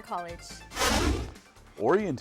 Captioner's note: whooshing